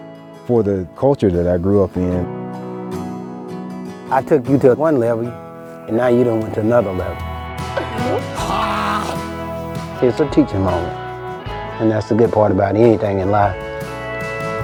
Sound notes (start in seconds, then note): 7.8 man laughs